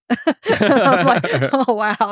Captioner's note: both laughing